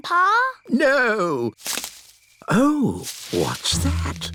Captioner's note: rustling